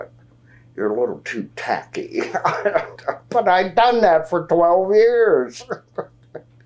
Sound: laughs

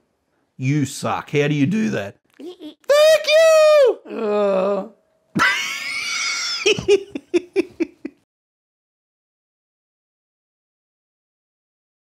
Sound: laughter

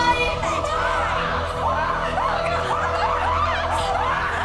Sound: screaming

